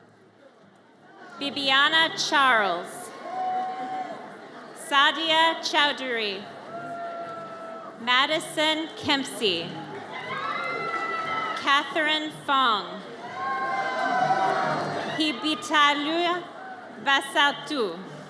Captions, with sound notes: Bibiana Charles. (audience cheers) Sadia Chowdhury. Madisyn Kempsey. (audience cheers) Katherine Fong. (audience cheers) Hibi Talua Vasal Tu.